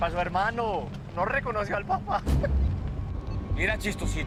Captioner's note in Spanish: Ríe